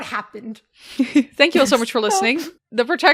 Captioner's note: giggles